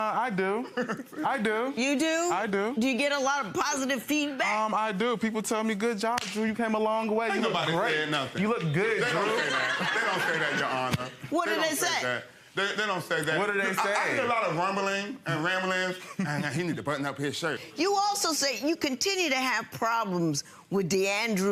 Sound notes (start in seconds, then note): 0.6 laughing